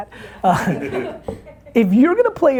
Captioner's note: laughing